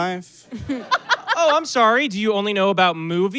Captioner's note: blurts laugh